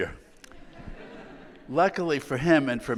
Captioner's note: audience laughing